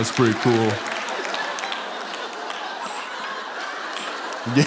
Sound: laughter

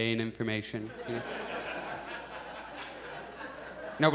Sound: audience laughs

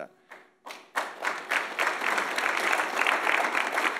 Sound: audience applauds

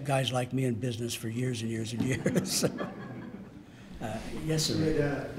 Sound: chuckling

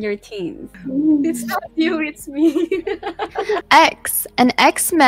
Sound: laughing

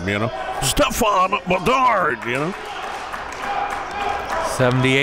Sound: cheering and applauding

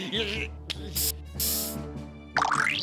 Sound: paint hisses

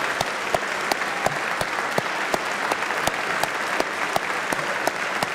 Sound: applause

